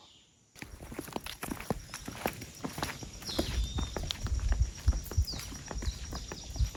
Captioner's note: footsteps crunching; birds chirping